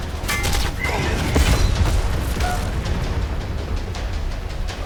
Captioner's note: hammer thudding; dramatic music